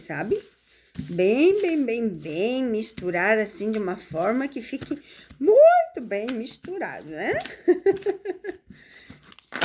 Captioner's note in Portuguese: risadas